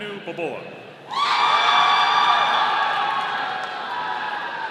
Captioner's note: audience cheering